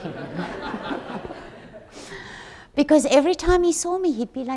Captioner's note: audience laughs